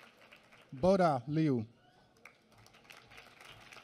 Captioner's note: applause